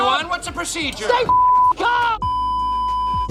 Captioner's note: beep; signal loss beeping